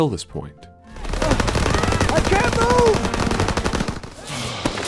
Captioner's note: american Accent